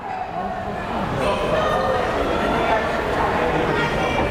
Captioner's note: crowd chatter